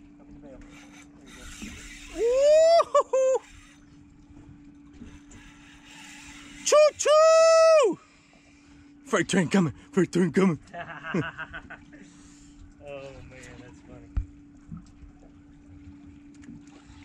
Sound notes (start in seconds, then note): 2.6 excited hollering; 10.7 laughing